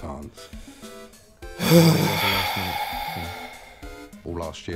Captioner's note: sigh